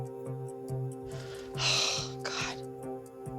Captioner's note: sighs